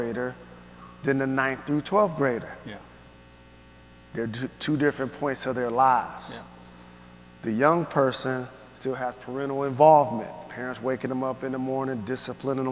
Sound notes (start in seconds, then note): none